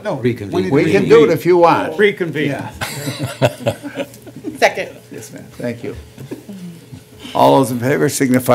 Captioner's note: laughter